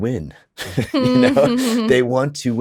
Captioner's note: chuckles; laughs